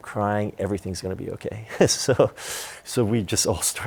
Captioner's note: laughter